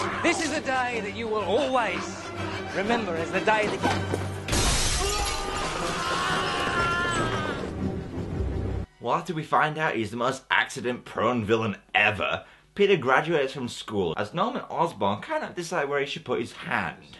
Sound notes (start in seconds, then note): 4.4 glass smashing; 4.9 screams of terror